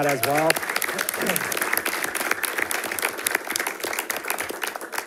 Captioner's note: audience applauding